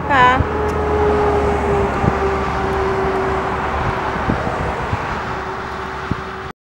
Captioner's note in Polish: dźwięk jeżdżących samochodów